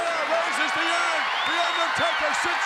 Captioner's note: audience cheers